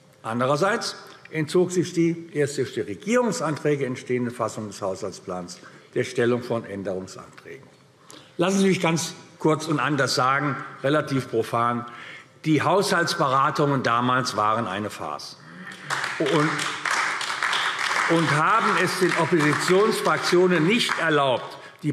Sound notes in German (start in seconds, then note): 15.6 Beifall AfD